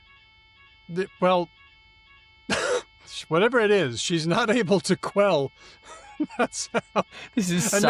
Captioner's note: laughs